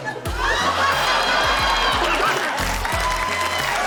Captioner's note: laughter, applause